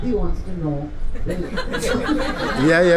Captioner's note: laughter